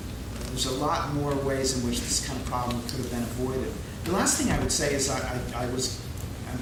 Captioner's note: laughing